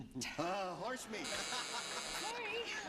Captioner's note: buzzer sounding